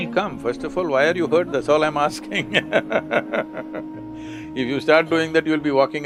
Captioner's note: laughs